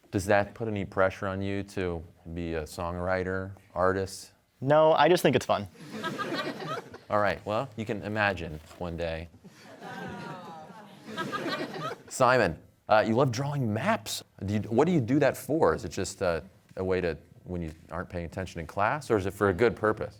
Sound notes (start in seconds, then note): 5.7 laughter; 9.5 laughter and groans